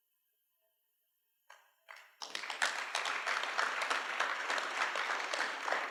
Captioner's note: applause